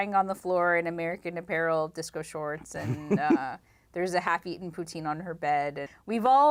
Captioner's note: laughter